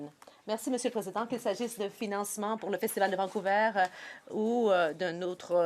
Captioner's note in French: voix de l'interprète